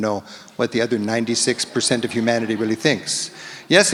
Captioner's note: audience laughs